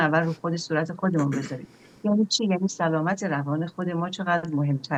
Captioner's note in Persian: گلویش را صاف می‌کند